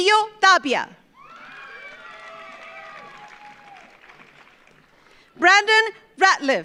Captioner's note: audience cheers; audience applauds